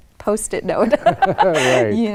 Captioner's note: laughter